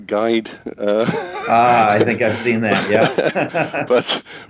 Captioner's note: laughs